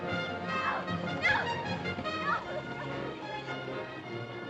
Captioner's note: suspenseful music; Messua cries out; suspenseful music